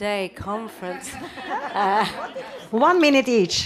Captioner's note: attendees laugh